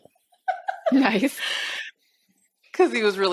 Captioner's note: laughs